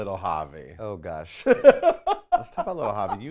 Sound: laughs

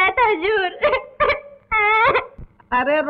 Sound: crying

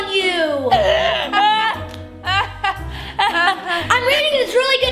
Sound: both laugh

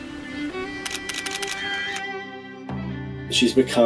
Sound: gentle music; camera clicks

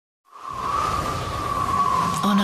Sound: SFX: wind

